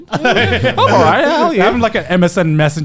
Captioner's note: laughing